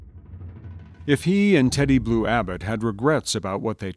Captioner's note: voiceover